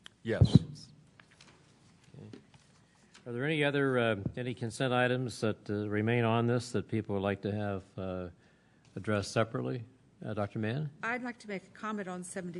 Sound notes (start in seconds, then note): none